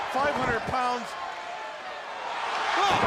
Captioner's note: crowd cheering